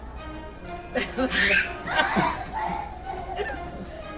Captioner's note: laughing